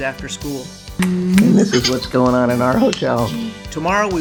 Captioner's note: making kissing noises